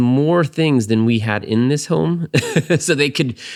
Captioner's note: laughs